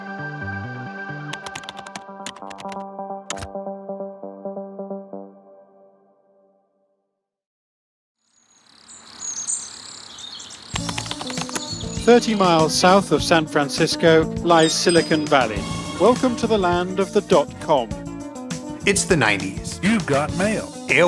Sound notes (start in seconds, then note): 1.3 mellow techno music; 8.8 birds tweeting; 10.8 upbeat techno music